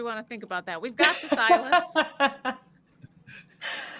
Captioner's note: laughing